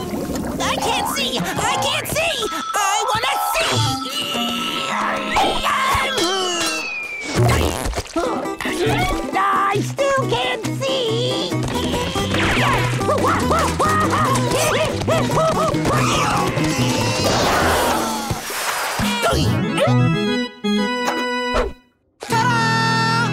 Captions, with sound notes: I can't see! I can't see! I wanna see! [grunting] I still can't see. [screaming] Ta-da!